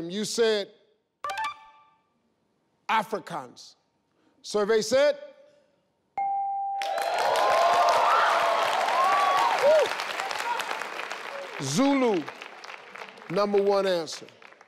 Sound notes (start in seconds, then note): 6.2 bell rings; 6.8 applause